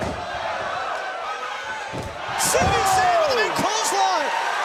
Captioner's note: crowd chatter